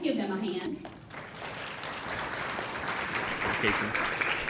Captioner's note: audience applauding